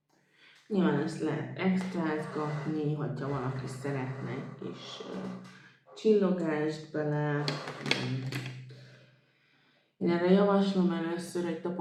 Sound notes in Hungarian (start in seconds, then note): 2.0 horkantás